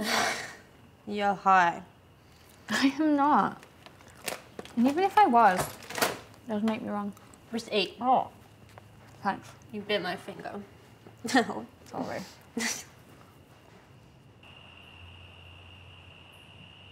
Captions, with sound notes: (loud exhale) - You're high. - I am not, and even if I was, it doesn't make me wrong. - Just eat. (muffled mouth full of bread) - Thanks. - You bit my finger. Ow - Sorry. (giggle) (crickets)